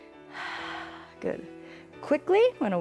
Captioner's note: exhales